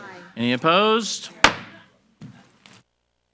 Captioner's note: gavel banging